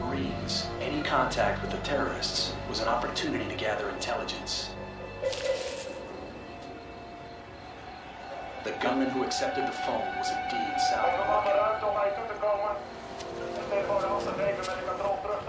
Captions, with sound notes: Any contact with the terrorists was an opportunity to gather intelligence. [ Rustling ] The gunmen who accepted the phone was... [ Speaking native language ]